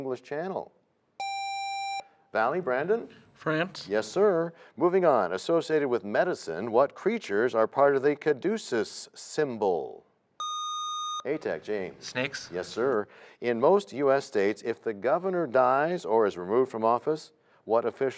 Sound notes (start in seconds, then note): none